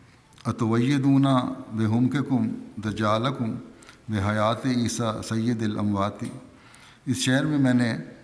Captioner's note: Arabic